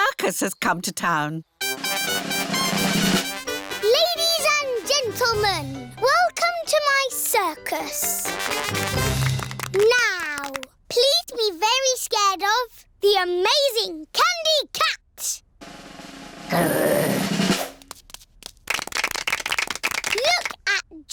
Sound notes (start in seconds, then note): 17.8 applause